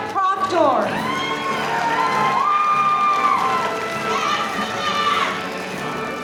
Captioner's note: audience cheering and applauding